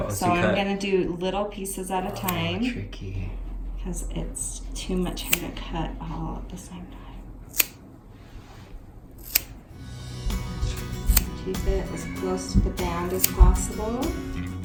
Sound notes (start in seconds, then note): 9.2 scissors chopping